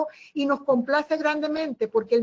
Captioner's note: Spanish